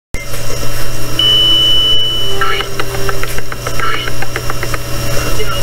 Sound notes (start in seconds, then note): 1.1 elevator Bell Rings